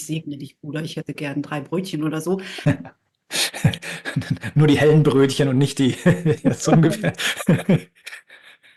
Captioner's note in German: gelächter